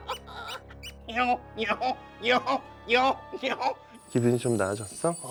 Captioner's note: Exploding in fake laughter for the boss